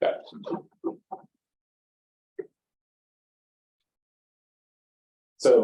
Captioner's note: silence